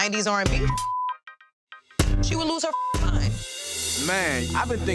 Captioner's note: beeps